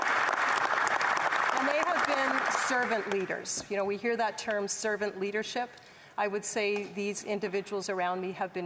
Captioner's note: applause